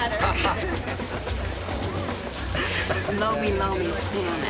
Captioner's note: laughs